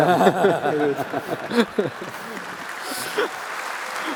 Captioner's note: applause